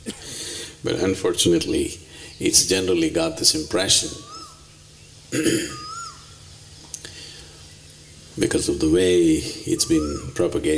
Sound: laughs

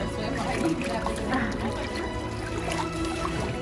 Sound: background music; gentle water splashing noise; background music; gentle water splashing noises

